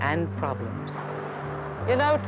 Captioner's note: city traffic